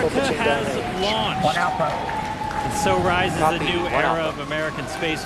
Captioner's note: cheering